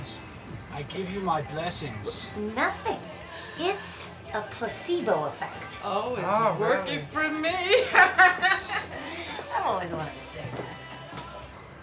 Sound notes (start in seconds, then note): 7.7 laughs